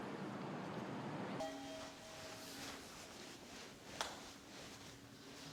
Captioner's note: elevator beeping